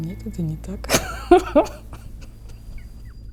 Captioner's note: laughs